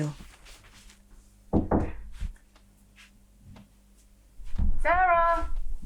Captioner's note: knocking on door